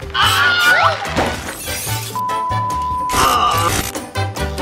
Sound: screaming; body thudding; glass shattering; groaning

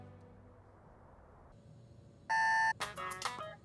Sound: alarm beeping; upbeat music

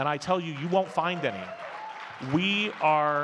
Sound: audience cheers and claps

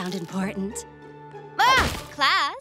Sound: screaming

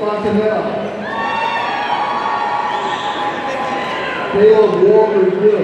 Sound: audience cheering

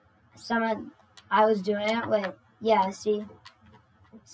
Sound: broken record player noises

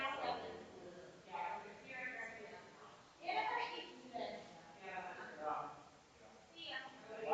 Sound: people chattering distantly continues

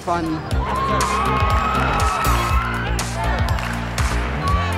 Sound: applause

